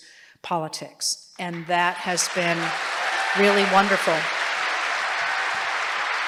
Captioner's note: applause